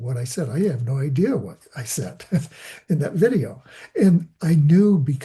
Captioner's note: laughing